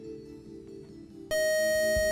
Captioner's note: beep